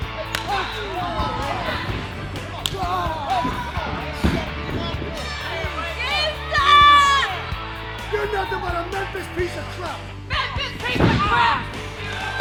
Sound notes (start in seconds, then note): 0.3 smacking sound; 0.9 crowd cheering; 2.6 smacking sound; 3.4 crowd cheering; 4.4 indistinct shouting; 11.4 screaming